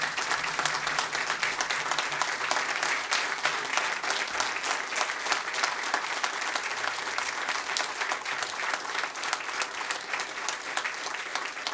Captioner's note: applause